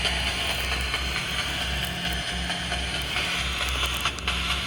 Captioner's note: static crackling